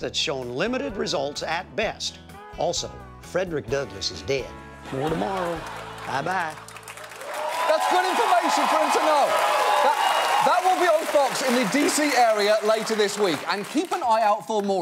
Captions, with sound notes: an expensive process that's shown limited results at best. Also, Frederick Douglass is dead. -(AUDIENCE LAUGHING) -More tomorrow. Bye-bye. -(AUDIENCE CHEERS AND APPLAUDS) -That's good information for him to know. That will be on Fox in the D.C. area later this week.